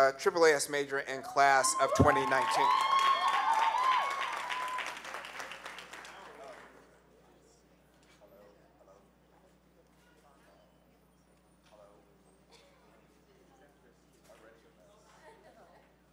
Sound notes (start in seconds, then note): 1.6 cheers; 1.8 applause